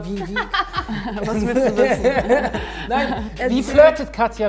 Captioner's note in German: Lachen